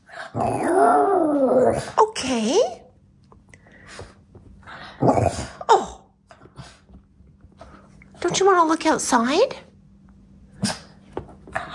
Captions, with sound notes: [dog howling] Okay! [grumble] Oh! Don't you wanna look outside? [snuff]